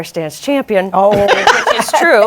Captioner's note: laughter